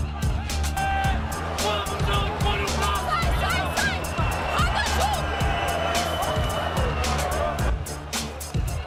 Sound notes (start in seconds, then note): 1.7 shouting in portuguese; 4.5 woman shouting